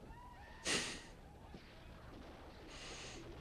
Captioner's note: Mitch chuckles softly